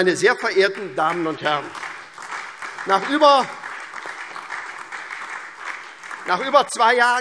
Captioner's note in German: Beifall SPD und DIE LINKE